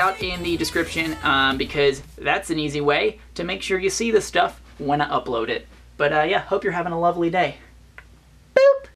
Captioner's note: boop